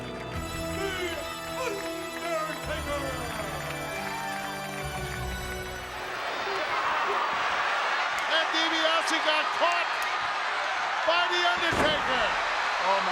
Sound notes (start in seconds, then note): 3.4 applause